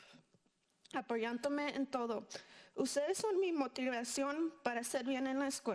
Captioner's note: speaking in foreign language